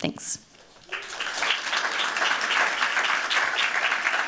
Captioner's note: applause